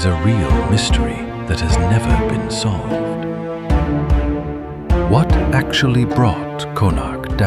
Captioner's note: thoughtful